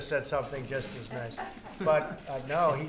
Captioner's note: laughter